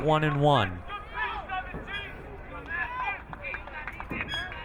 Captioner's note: crowd cheering